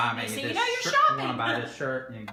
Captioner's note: laughs